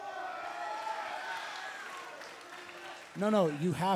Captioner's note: crowd chatter